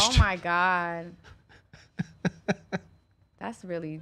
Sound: laughing

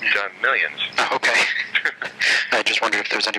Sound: laughing

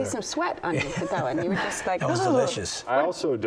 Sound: shivers

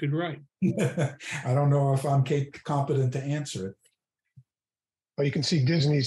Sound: laughing

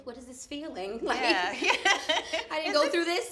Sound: laughs

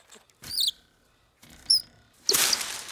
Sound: chirping; leaves rustling

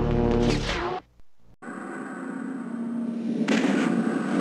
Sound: mechanical sounds; dramatic sounds; digitized landslide sounds

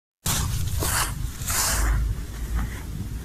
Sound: footsteps

